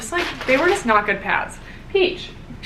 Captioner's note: paper rustling